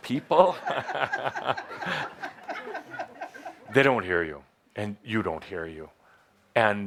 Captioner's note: laughter